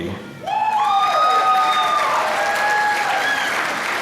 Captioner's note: applause